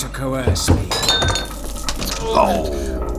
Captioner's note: staggering. Sound of paper falling; mocking